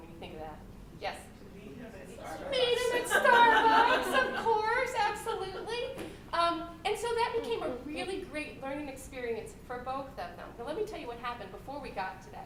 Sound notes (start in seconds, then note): 2.7 laughter